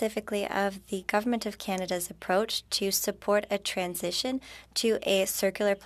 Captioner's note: speaking French